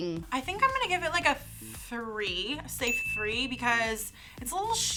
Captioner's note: bell dings